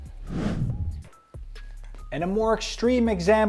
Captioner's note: transition whooshes; upbeat music continues